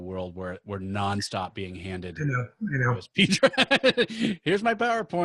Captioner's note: laughing